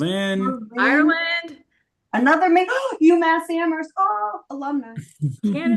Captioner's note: gasps